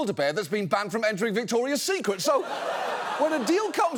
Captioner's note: audience laughs